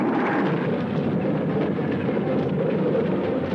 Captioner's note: plane rattling; suspenseful music